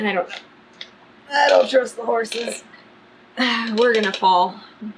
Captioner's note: grunts